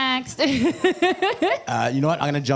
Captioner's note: laughs